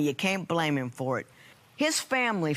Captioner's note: none